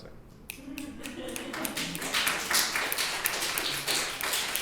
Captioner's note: applauding